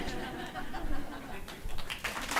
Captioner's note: audience laughs; audience applauds